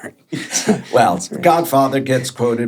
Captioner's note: both chuckling